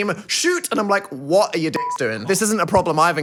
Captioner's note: beep